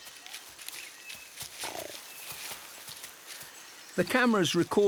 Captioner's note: puma growls